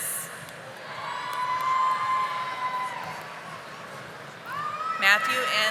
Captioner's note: audience applauding